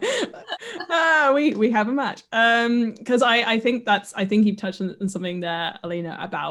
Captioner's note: laughs